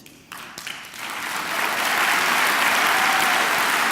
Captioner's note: clapping